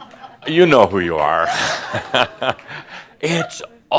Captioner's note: Adamus chuckles